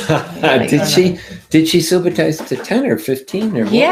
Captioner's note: laughs